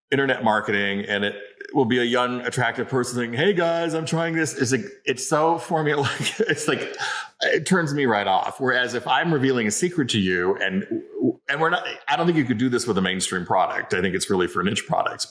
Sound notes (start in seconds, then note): 6.0 laughs